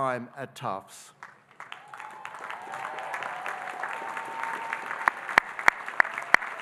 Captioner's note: audience cheering and applauding